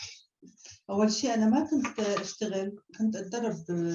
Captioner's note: non-english speech